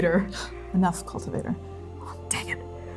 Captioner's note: scoffing